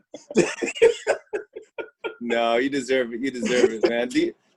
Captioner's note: laughter